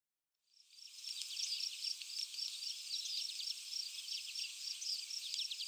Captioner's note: birds and insects chirping